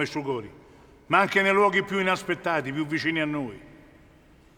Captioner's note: none